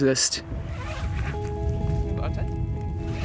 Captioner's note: zipper zipping